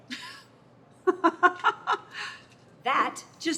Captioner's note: Carla chuckling